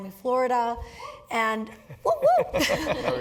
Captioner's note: laugh